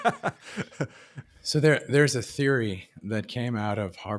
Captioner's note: laughs